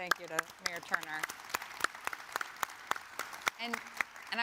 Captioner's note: audience clapping